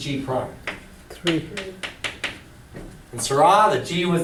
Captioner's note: voiceover